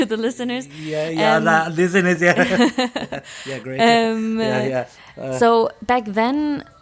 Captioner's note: both laughing